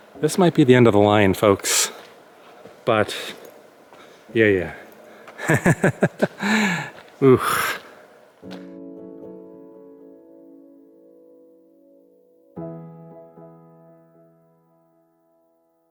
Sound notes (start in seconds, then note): 5.4 laughter